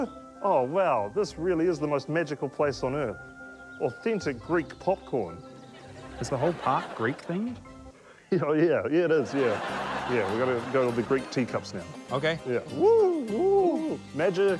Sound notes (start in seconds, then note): 9.2 laughter; 9.2 chuckles